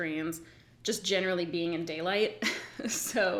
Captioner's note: giggles